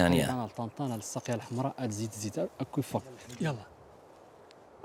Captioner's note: Arabic spoken audio